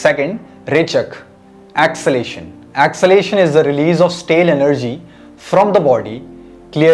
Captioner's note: exhalation